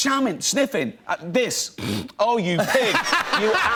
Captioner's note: snorts; laughter